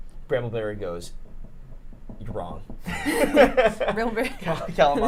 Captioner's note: laughs